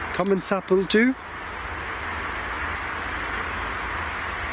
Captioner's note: speaking in foreign language